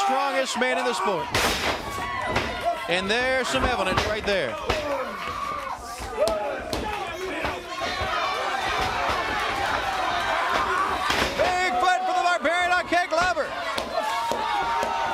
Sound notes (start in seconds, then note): 6.9 crowd chatter; 14.9 crowd cheering